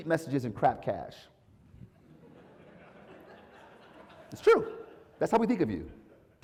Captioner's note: laugh